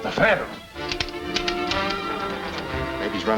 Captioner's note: gun clicks